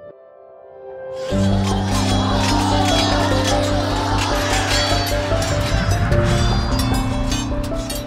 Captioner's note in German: Musik, klingende Schwerter und Kampfgebrüll